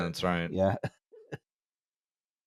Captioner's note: chuckles